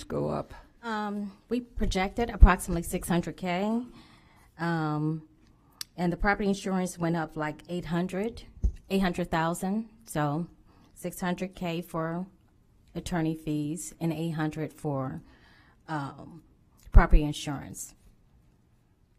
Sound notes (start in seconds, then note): none